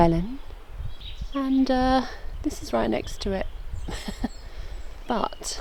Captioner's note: giggle